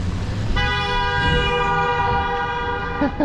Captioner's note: truck blares horn at car blocking intersection